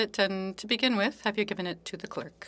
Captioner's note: speaking French